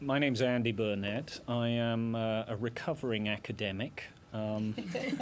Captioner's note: laughter